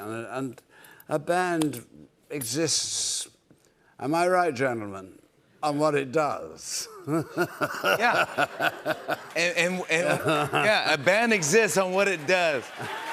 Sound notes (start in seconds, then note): 7.0 laughs